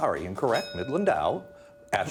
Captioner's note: bell dinging